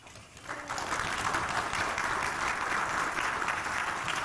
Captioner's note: audience clapping